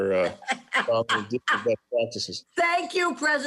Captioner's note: laughs